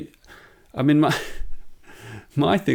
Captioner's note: laughs